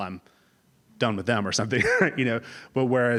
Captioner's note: laugh